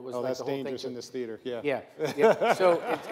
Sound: laughs

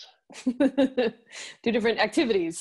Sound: laughs

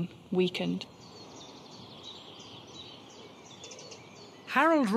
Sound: birds chirping

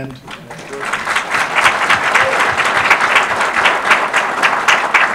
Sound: audience applause

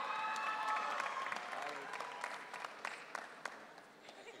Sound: audience cheering

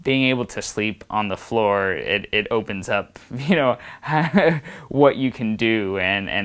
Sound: laughs

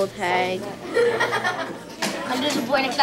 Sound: laughing

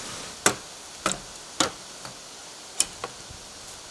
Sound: hammer tapping

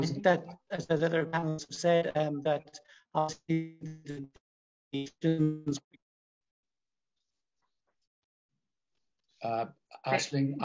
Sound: sound distortion

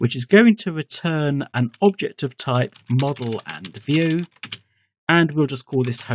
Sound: typing

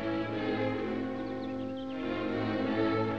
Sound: bird Twittering

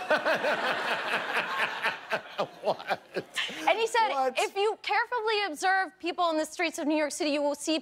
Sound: laughter

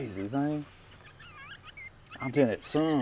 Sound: birds chirping

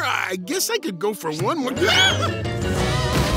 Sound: screaming

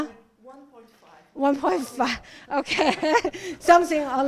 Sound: laughing

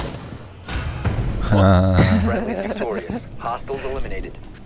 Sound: laughing

